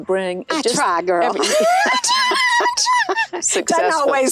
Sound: laughs

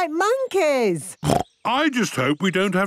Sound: snorts

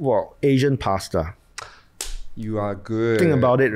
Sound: claps

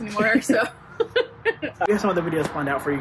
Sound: laughs

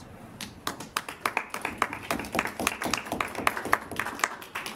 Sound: applause

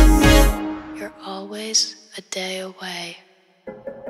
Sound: fading Voice

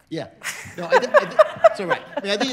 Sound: laughing

